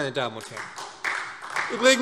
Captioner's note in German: Beifall SPD